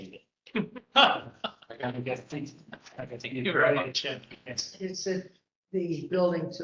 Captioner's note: laugh